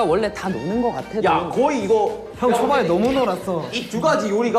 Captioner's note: slap!